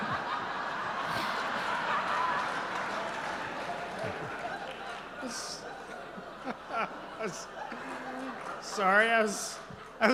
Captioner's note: laughter